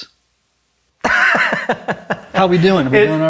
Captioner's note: laughs